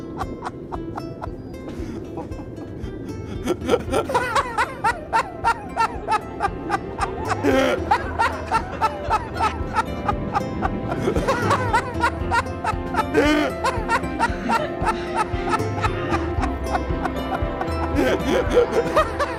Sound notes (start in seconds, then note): 5.5 crowd Laughing